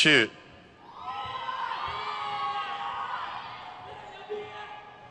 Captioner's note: crowd cheers